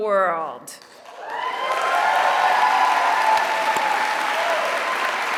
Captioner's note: applause